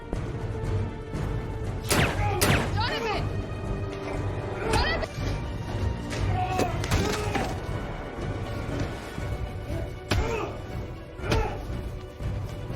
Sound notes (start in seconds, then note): 1.9 gunshots, groaning; 4.3 punching, groaning; 10.0 punching, groananing